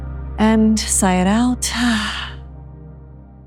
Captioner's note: exhales